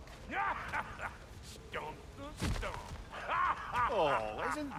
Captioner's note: laughs; laughs